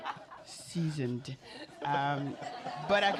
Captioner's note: laughter